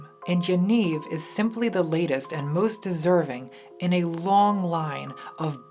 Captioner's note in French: none